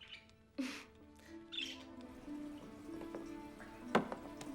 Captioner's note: birds chirping; suspenseful music